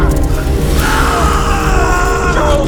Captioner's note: sizzling; screams